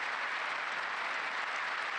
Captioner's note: applause